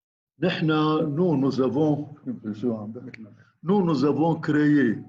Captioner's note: speaking in foreign language